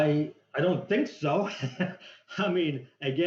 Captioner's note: laughs